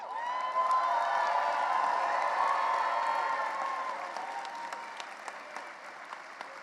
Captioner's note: cheering and applause